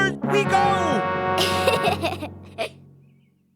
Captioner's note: giggling